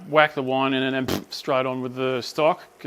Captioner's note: blurt